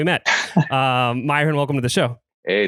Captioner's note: laughs